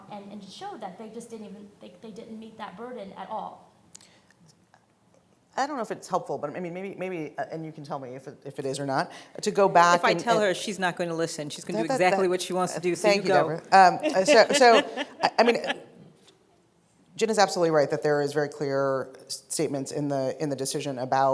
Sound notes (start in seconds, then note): 13.0 laughing